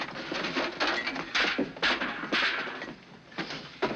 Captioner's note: clattering